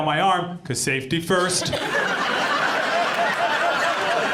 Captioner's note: audience laughs